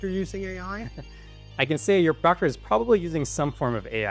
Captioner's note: laughs